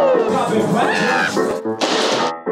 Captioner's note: screams; upbeat music